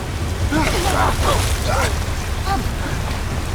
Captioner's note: Preston grunting; ominous music